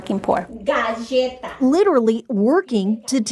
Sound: speaking Spanish

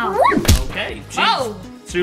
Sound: feet slams

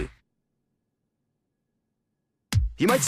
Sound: dead silence

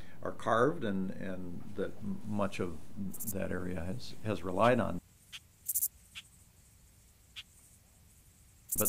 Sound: birds chirping

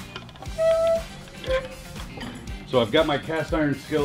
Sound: lid squeaks

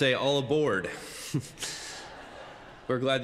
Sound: congregants laugh

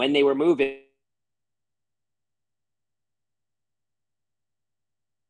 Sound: audio cuts out

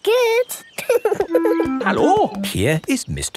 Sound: laughing

